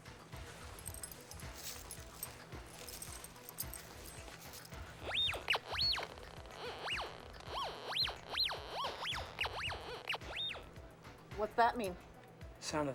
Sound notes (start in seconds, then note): 5.0 electronic sweep